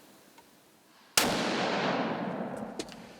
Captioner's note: gunshot